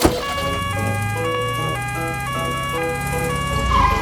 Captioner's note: siren sounding